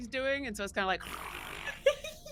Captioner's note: buzzing; giggling